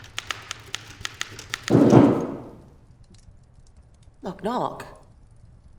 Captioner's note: knocking